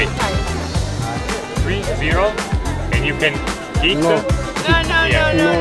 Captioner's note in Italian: Inglese